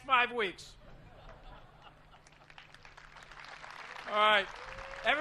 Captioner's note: laughter and applause